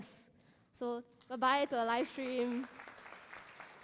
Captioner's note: applause